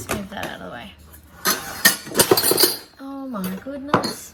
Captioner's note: so. much. clattering